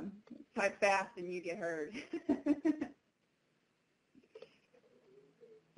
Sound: laughing

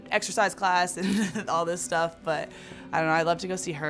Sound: laughs

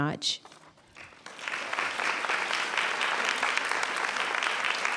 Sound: audience applauds

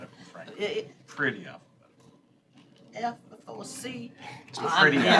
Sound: laughter

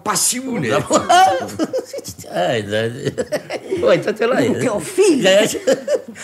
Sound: laughs

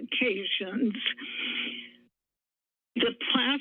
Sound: pause

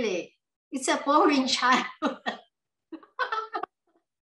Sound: laughs

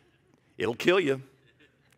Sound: man laughs

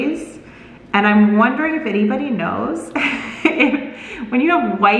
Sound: laughs

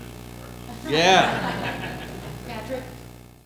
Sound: laughter

